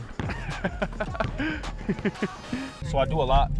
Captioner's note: laughs